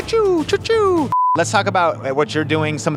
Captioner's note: beep